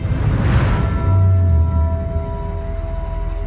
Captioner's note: bells toll